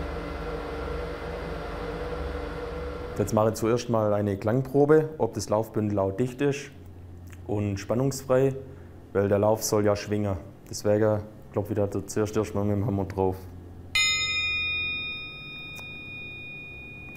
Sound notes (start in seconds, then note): 13.9 bright sound